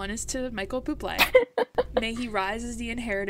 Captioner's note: laughs